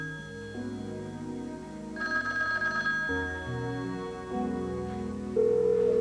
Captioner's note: telephone rings